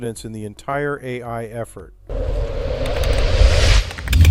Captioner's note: logo whooshing